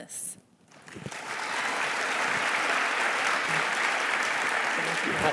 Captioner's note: audience applauding